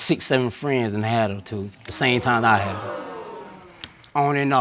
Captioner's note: audience exclaims in shock